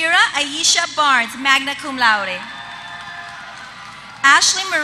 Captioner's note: applause